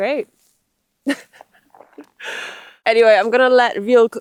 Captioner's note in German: lacht